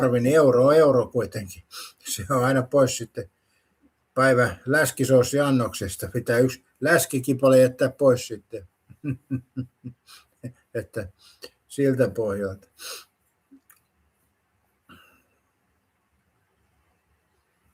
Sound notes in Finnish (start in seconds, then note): 8.9 naurua